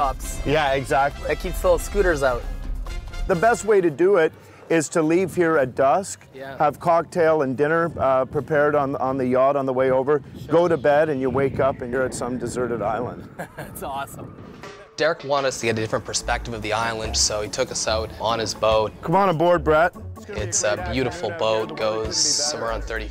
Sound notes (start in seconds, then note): 13.2 laughs